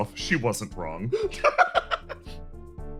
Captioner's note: laugh